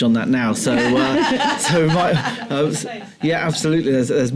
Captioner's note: laughter